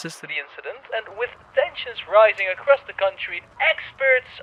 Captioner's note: sound becomes tinny, as if coming from a speaker